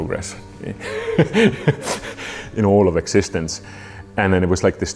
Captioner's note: laughs